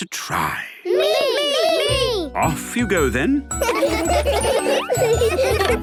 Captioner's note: laughter